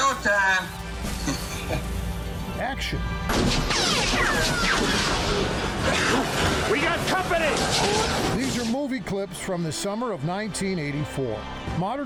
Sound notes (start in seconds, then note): 3.3 guns shooting